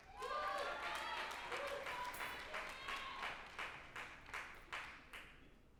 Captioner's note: group applauding and cheering